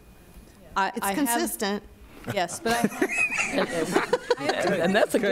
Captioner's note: laughter